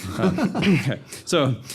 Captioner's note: panel laughing